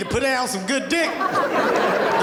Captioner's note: audience laughing